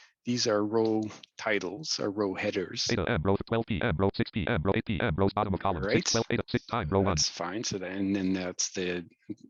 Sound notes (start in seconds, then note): 3.2 rapid screen reader audio output; 6.4 screen reader audio output